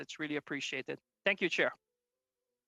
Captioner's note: speaking French